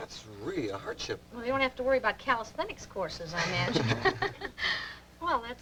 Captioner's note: laughter